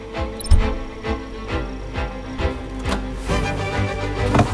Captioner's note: timer beeping